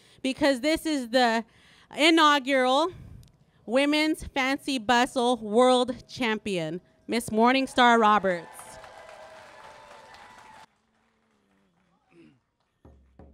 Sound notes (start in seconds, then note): 8.1 applause